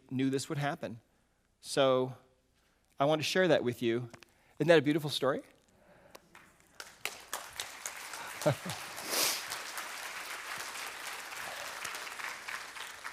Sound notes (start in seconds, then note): 6.2 audience claps